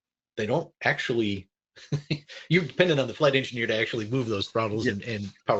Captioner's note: chuckles